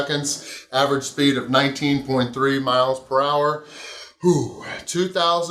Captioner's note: grunts